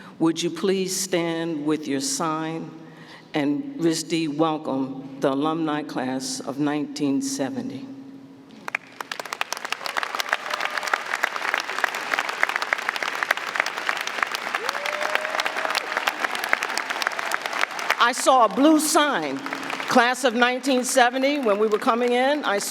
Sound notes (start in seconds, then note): 8.9 audience applauding; 8.9 audience cheering